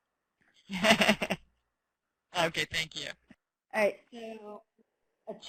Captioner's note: laughing